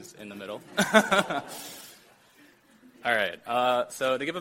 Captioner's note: chuckles